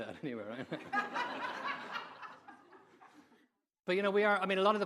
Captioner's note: audience laughing